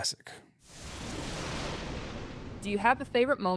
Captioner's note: thunder rumbles